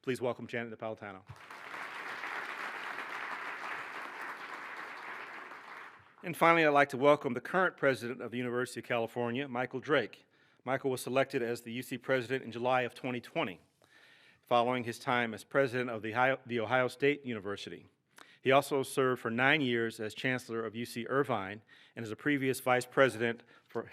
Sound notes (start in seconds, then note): 1.2 applause